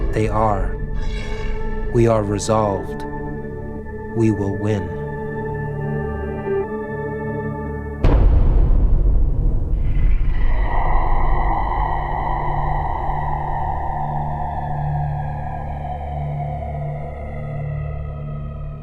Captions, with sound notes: They are, we are resolved, we will win." (soft ambient music) (dragon growling)